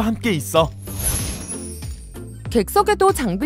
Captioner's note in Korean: 바람 소리 효과음